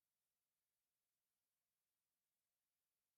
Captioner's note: none